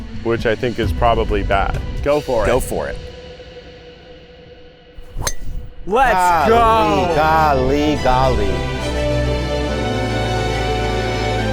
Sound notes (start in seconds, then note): 5.0 golf club thwacks; 8.8 bright music